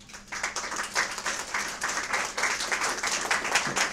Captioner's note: audience applause